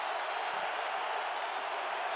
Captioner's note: crowd cheering